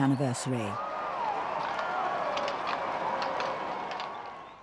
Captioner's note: crowd cheering